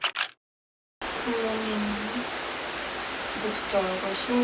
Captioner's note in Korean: 마이크에 빗소리가 너무 크게 들어갔네요